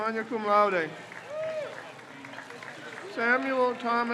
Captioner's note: crowd cheers